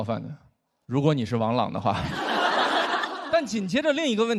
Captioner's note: audience laughs